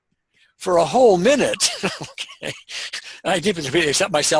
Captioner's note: laughing